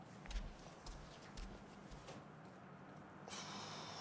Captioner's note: footsteps plodding; exhaling